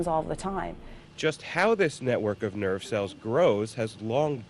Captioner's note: voiceover